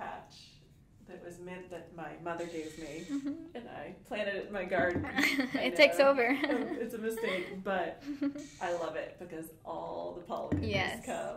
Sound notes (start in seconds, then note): 3.0 both laughing